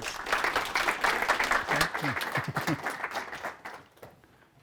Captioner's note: audience applauding